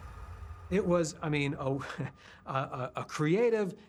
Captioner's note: chuckles